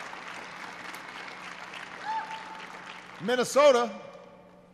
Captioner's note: applause